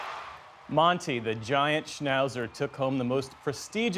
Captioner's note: cheering